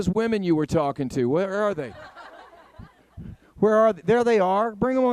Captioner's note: audience laughing